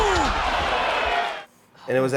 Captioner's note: audience cheers